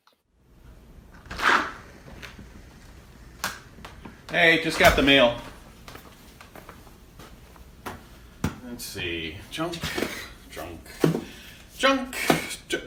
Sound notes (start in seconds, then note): 1.1 door opening; 4.7 light footsteps